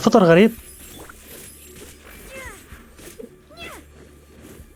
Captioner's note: grunts